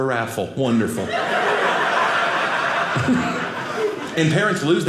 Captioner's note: audience laughing